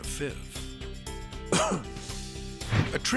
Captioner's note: coughs